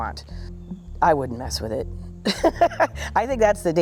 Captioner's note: chuckles